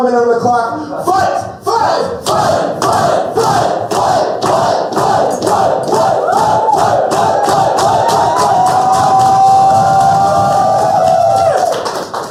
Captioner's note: chanting